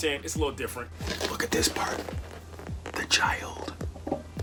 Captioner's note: whispering